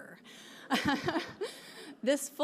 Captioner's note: laughs; audience laughing